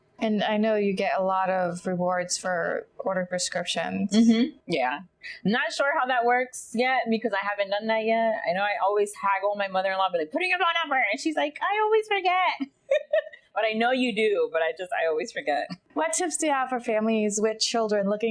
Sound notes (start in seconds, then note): 12.5 chuckles